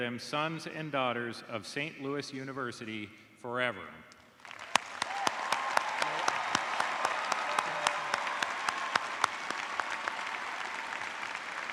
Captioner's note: cheers and applause